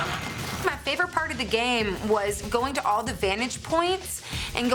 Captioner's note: slicing